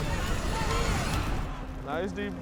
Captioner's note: crowd shouting